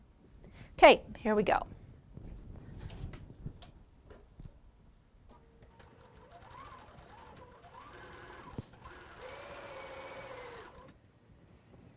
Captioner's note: sewing